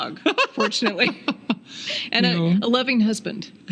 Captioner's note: laughing